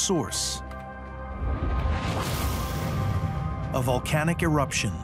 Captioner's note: gentle suspenseful music; air whooshes